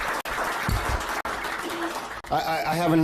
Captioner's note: applause